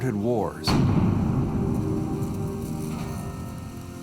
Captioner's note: explosions booms